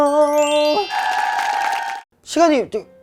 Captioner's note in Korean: 짝짝 짝짝